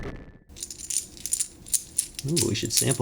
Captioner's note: cards clinking